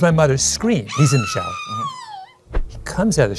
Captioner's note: scream